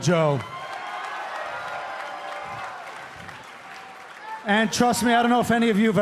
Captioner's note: cheers and applause